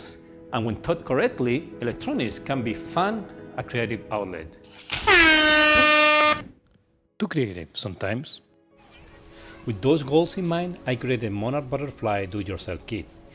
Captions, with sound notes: and when taught correctly Electronics can be a fun and creative outlet (Loud Honk Noise) too creative sometimes with those goals in mind I created the Monarch Butterfly Do-It-Yourself Kit